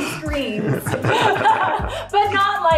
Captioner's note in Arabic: يضحك